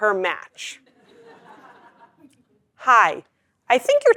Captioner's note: laugh